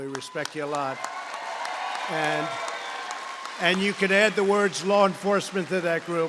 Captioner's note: applause